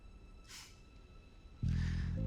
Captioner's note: laughs